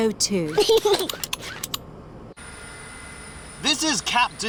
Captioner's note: snorts; giggles